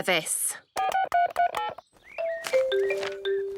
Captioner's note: phone beeping